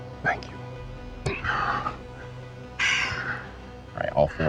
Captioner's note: breaths heavily